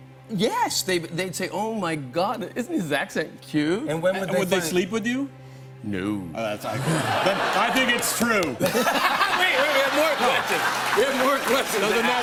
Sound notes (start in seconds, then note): 6.6 laughter